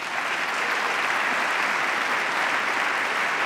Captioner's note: applause